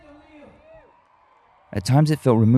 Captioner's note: cheering